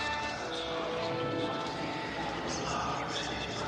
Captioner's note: voices whispering